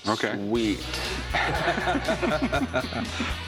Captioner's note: laughter